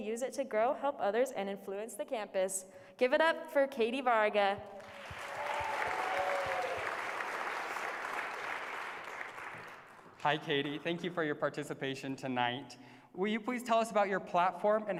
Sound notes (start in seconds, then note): 4.7 applause